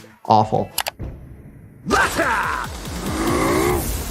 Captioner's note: click